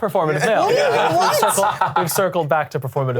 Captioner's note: all laughing